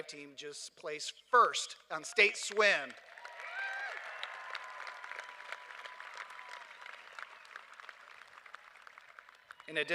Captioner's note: cheers and applause